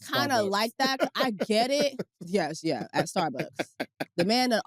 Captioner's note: laughs